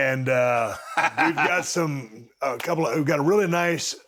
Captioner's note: Cody chuckles